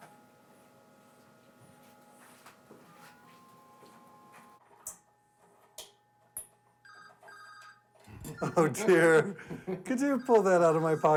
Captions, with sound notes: (feet shuffling) (phone ringing) Oh dear, could you pull that out of my pocket?